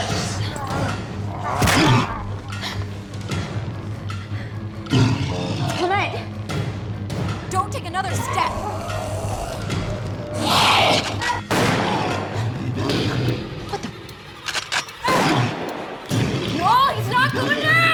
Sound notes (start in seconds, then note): 8.1 shrieks; 11.4 gunshot; 14.0 rifle cocks, gunshot